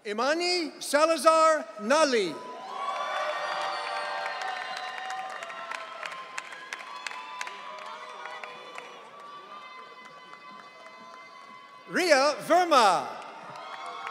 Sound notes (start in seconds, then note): 2.7 audience cheering; 13.8 audience cheering